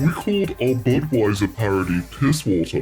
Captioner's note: in a mocking, voice shifted tone